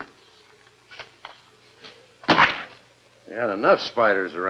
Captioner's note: splat